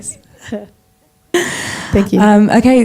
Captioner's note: laughing